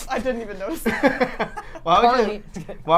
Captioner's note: laugh